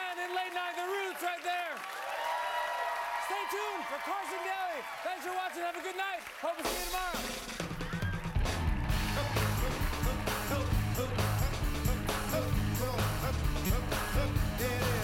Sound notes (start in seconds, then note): 5.7 cheers and applause; 10.9 cheers and applause